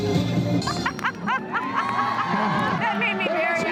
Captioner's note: laughs